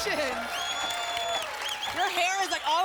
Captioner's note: applause and cheering